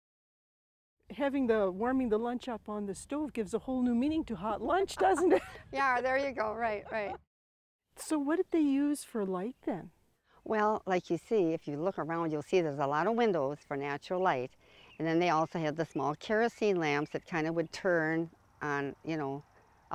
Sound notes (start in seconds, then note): 4.7 laughs